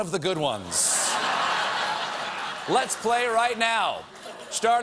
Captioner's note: laughter